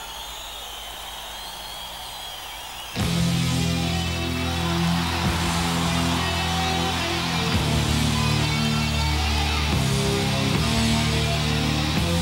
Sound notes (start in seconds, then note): 4.6 audience cheering and clapping